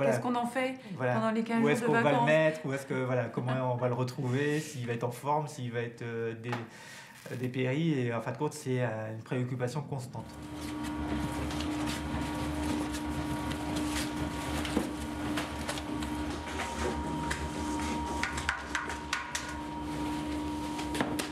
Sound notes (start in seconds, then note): 10.7 machine noises